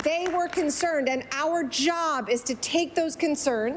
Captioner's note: applause